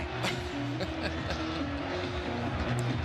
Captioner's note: chuckles; upbeat music